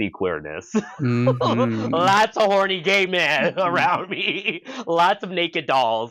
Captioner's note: laughing